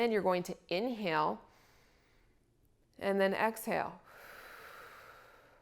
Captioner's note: inhales; exhales